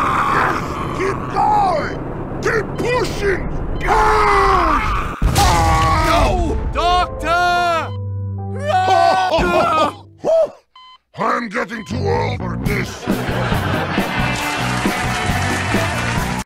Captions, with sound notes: YES! KEEP GOING! KEEP PUSHING! "PUSH!" *Sniper yells in agony* *Heavy screams in pain* NO! DOCTOR! *Medic cries* *Heavy laughs* *Heavy laughs* *Heavy sighs* I am getting too old for this! *Audience cheers*